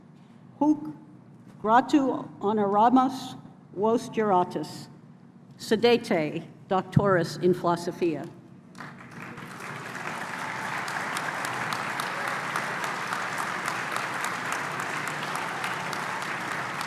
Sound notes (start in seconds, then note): 8.7 applause